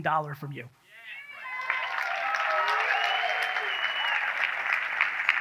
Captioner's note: audience cheers